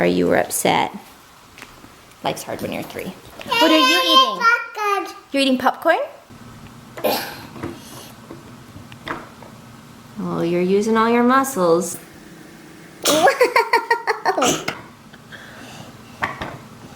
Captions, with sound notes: - I'm sorry you were upset. Life's hard when you're three. What are you eating? - Eating popcorn! - You're eating popcorn? (grunting) - You're using all your muscles. (laughter)